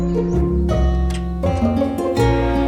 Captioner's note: door opens